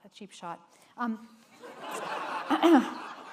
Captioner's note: laughter